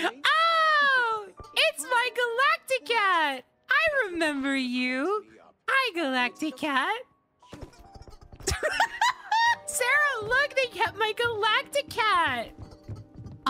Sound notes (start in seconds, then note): 7.5 Galacticat Thumps And Squeaks; 8.0 laughter